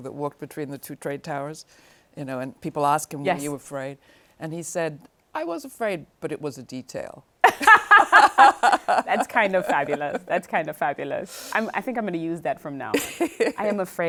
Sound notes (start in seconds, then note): 7.4 laughing